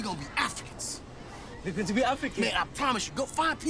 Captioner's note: African accent